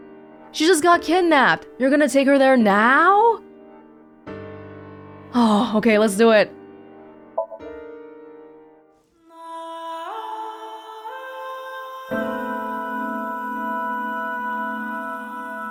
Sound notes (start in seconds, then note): 5.0 exhales